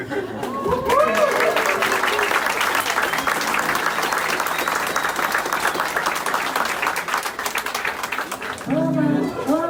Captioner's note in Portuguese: aplausos